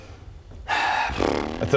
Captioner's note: reluctant sigh